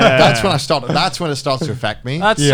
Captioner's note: Garnt laughing